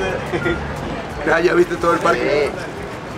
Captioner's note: in Spanish